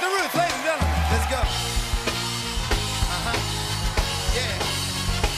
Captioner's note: cheers and applause